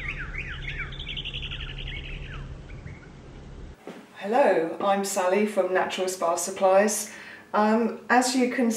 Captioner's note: bird singing